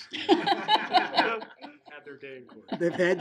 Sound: laughing

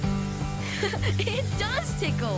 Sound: laughs

